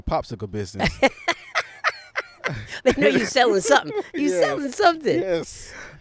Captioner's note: laughs